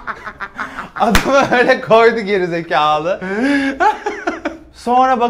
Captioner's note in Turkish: gülmeye devam